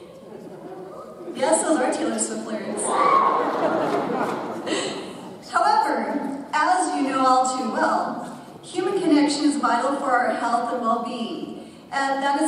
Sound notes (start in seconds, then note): 2.8 audience cheers; 2.9 laughs